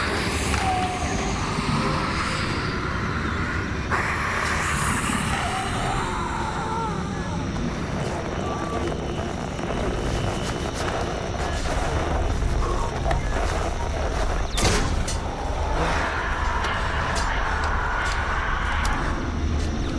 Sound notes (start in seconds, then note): 1.6 growling; 5.6 muffled screaming; 8.7 static buzzes and whines; 14.3 thudding; 17.6 growling